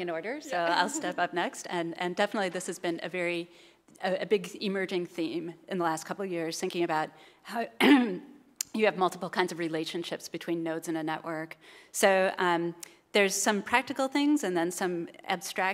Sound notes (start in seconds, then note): 0.5 laugh; 7.8 cough